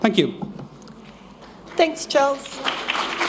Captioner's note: applause